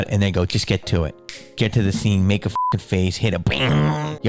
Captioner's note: snaps